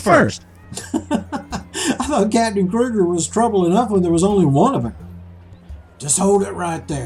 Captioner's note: laughter